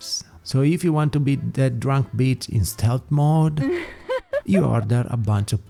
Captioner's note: laughs